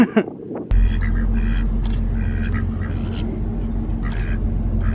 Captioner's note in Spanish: risas; sonido de los patos